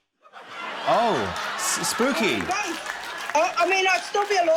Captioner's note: laughter, applause